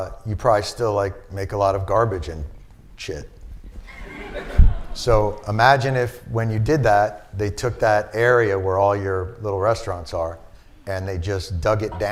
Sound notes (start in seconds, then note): 3.8 laughter